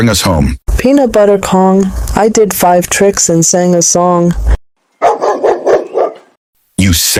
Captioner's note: dog bark